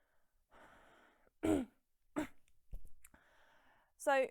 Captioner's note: clears throat roughly